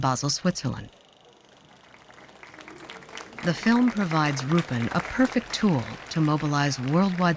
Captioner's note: applause